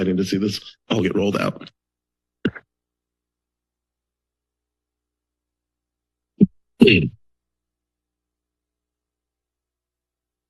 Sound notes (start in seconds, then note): 2.8 silence; 6.8 sneezing; 7.4 silence